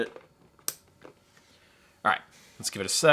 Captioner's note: plastic clicking